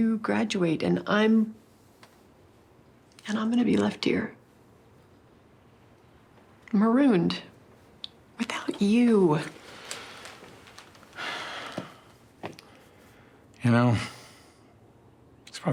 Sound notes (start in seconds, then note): 11.2 Christopher sighs